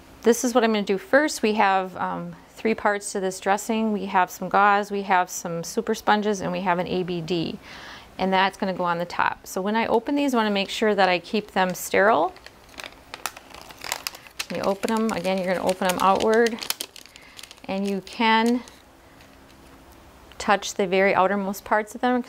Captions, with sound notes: This is what I'm gonna do first, we have three parts to this dressing; we have some gauze, we have some super sponges, and we have an ABD. And that's gonna go on the top. So when I open these I wanna make sure that I keep them sterile. (wrapper crackling) You open them again, you're gonna open them outward. And you can touch the very outer most parts of them